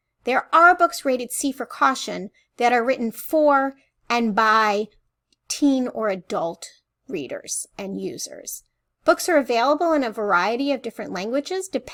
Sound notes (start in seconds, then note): none